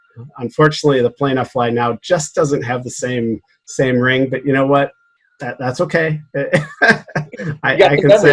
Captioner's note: laughter